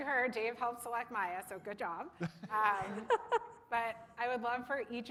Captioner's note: laughter